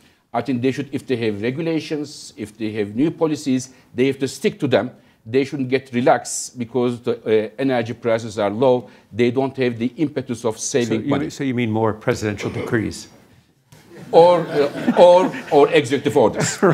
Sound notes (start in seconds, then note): 13.9 laughter